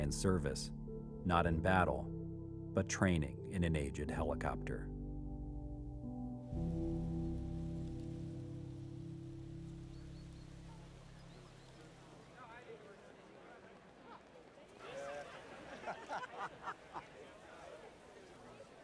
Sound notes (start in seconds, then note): 6.3 slow, somber music; 12.4 people chattering; 16.4 laughing